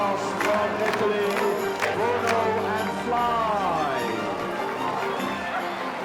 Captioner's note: synchronized clapping